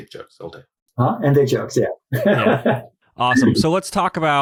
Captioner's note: laughs